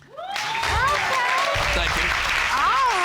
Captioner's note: audience cheering